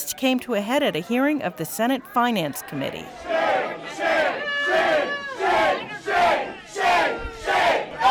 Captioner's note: chanting